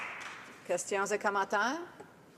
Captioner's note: some applause